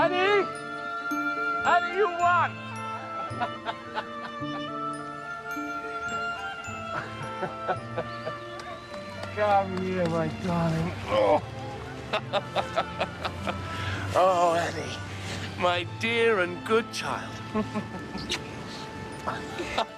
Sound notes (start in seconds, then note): 5.0 laughter